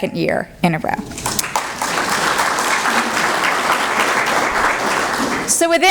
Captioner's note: applause